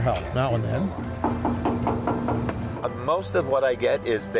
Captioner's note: door knocking